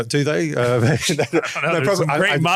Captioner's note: laughter